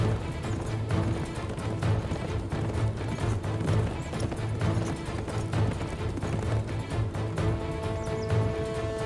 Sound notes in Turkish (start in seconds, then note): 0.0 Müzik - Hareketli; 2.8 At nalı sesleri